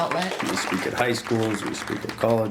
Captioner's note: applause